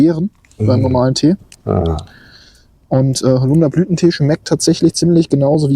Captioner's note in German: schnauben